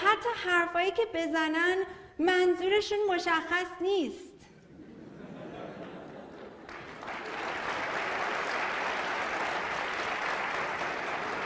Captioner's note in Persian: خنده و تشویق حضار